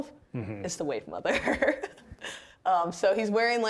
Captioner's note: laughing